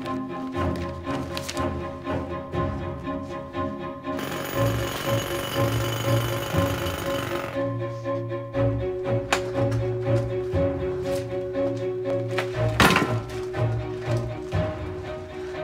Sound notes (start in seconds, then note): 4.2 jackhammer clangs; 7.6 exciting instrumental music